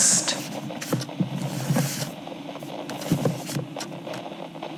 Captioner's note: both pick up the books fx